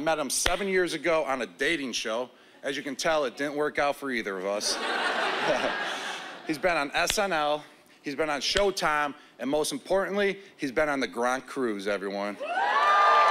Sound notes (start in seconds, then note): 4.6 laughter